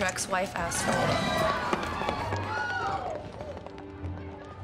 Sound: crowd screaming

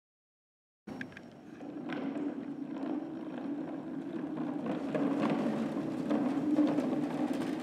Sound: sound of wheels rolling

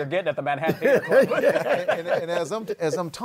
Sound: laughs

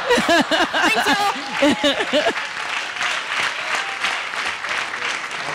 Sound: audience applauding

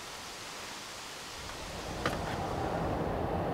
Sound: wind; road noise

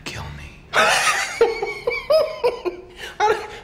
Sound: Joker laughing

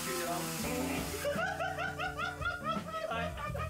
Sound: laughter

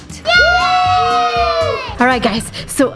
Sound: cheers

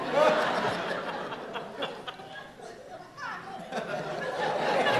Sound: audience laughs

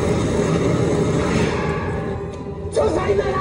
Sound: crane clangs

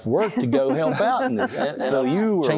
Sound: laughter

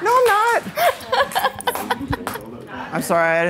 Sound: laughs

